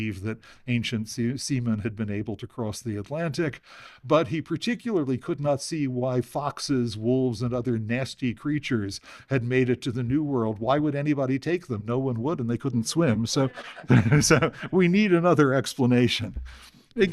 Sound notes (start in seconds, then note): 13.4 laughter